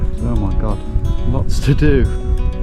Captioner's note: none